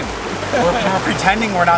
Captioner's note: laughs